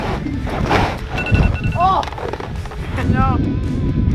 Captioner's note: alarm rings